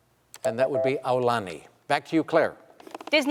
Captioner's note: beep